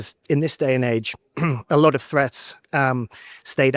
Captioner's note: clears throat